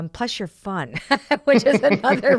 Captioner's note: both laughing